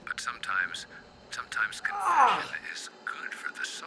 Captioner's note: Kenny screams